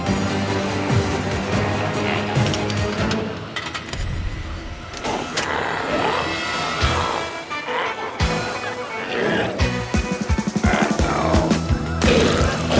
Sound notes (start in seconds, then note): 0.1 intense music continues; 5.0 glowzies growling; 6.8 energetic music